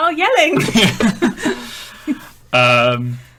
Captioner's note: laughing